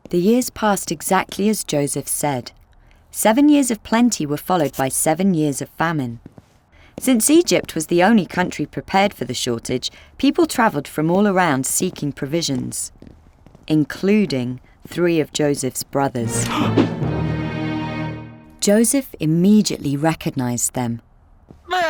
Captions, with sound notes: The years passed exactly as Joseph said. Seven years of plenty were followed by seven years of famine. Since Egypt was the only country prepared for the shortage, people traveled from all around seeking provisions, including three of Joseph's brothers. (dramatic music) (Joseph gasps) Joseph immediately recognized them.